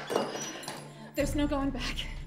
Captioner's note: lock clanking